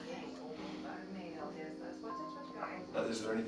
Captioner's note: indistinct chatter